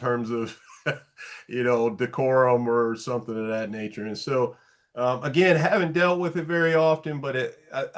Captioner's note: light laugh